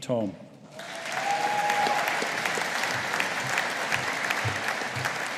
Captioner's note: audience applauding